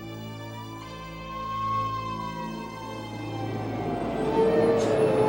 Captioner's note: firetruck siren alarming